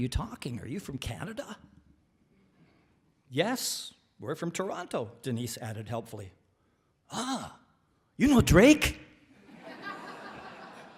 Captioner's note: laughter